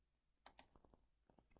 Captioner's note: click